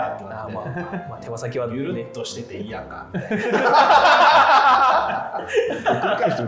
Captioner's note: laughing